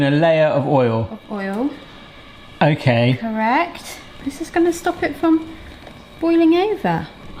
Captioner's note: none